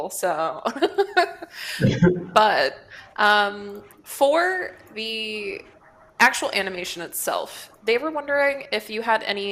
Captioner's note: laughs